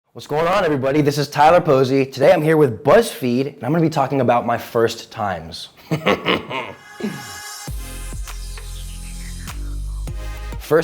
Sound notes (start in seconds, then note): 5.8 chortles; 6.4 upbeat music